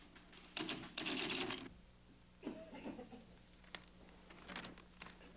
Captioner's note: typewriter clacking